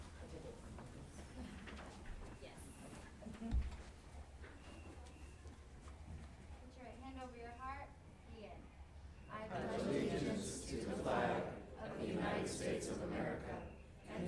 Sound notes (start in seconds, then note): 0.6 chatting